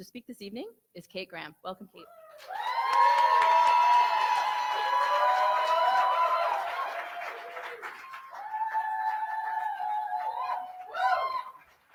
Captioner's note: cheering